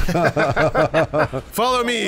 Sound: laughter

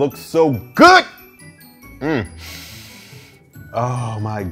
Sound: sniffing

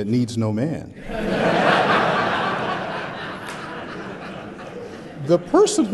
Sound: laughter

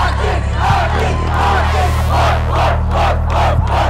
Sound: cheering

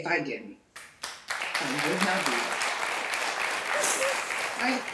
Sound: audience applauding

